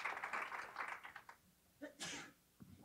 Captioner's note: sneeze